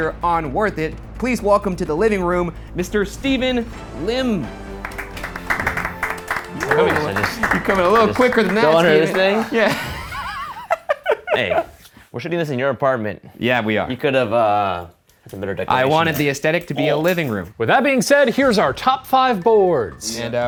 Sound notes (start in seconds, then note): 4.8 clap; 10.1 laughs